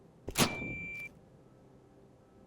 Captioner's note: breaker Toggles